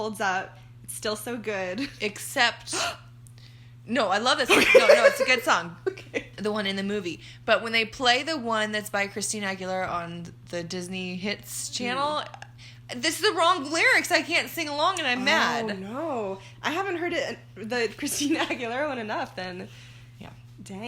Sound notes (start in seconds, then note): 3.4 gasp